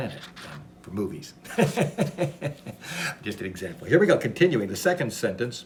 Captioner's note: laughs